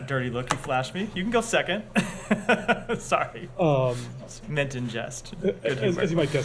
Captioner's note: laughter